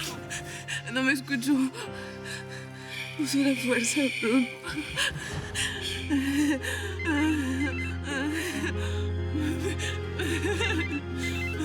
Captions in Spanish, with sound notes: BRUNO... NO ME ESCUCHÓ. USÓ LA FUERZA, BRUNO. >>SHH... [Sollozos]